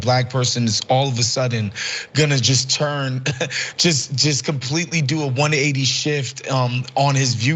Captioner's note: laugh